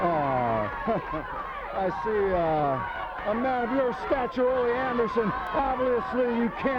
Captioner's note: laughs